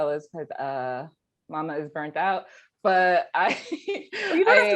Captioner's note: laughing